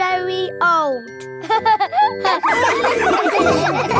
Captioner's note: all laughing